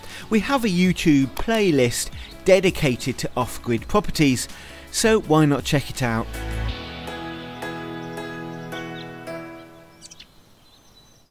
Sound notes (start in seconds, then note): 6.9 birds chirping; 6.9 gentle music